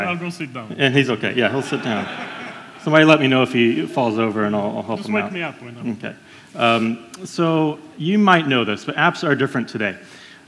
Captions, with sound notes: - I'll go sit down. - Yeah he's okay, yeah he'll sit down. - [Crowd] (Laughs) - Somebody let me know if he falls over and I'll help him out. - Just wake me up. - Okay. So you might know this but apps are different today